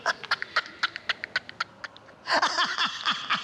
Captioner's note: laughs